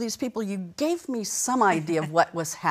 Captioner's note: chuckles